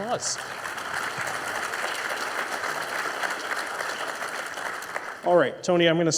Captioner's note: audience applauding